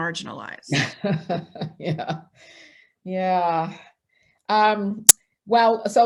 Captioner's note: chuckling